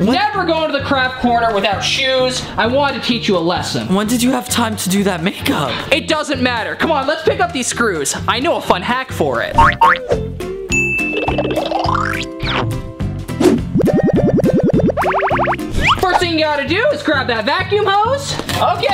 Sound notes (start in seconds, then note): 9.6 upbeat music begins; 10.7 ding